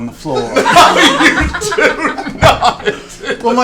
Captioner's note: laughing